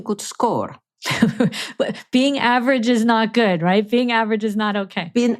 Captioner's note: chuckles